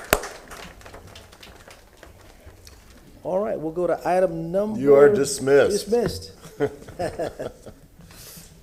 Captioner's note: applause